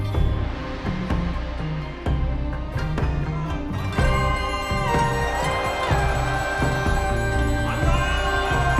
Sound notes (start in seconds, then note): 1.6 crowd shouting; 1.6 soft somber music